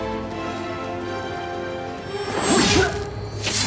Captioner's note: gasps